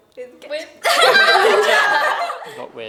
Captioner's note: laughter